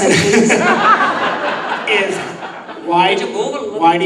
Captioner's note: laughing